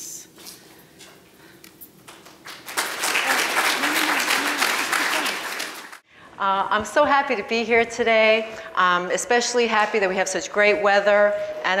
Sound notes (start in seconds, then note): 2.2 audience applauds